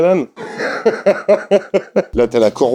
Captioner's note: laughs